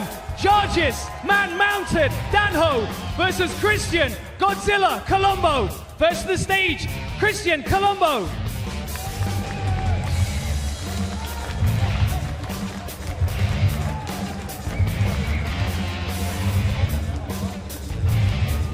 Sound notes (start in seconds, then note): 2.4 applause